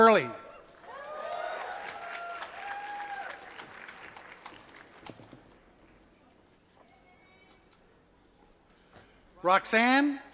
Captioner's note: applause